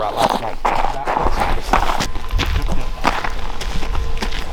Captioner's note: footsteps thudding